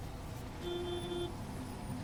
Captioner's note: needy car honking